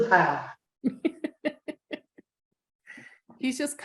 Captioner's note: laughing